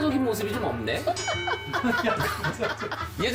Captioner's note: ding